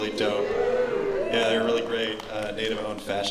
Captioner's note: audience oohing